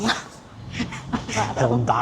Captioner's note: laughing